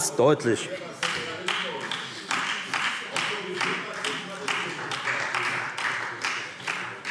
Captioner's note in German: Beifall